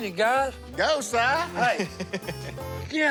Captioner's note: laughs